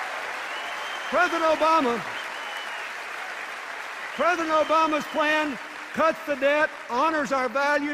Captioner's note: cheers and applause